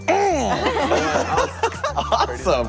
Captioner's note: group laughing; grunting